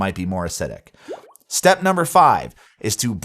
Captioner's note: graphics pop